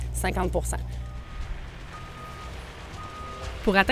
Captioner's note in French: signaux sonores